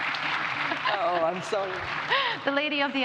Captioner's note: audience applauds